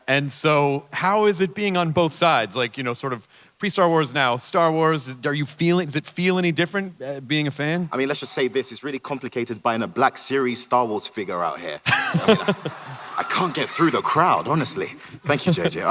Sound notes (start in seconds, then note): 11.6 Hardwick et al chuckle